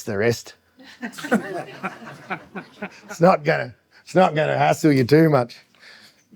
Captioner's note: audience laughs